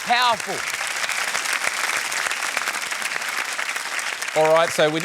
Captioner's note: applause